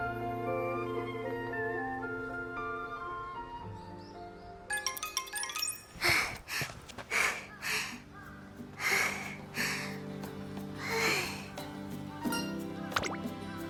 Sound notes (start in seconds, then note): 5.6 huff; 5.6 sigh